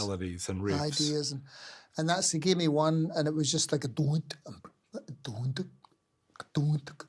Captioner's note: mimics percussive sound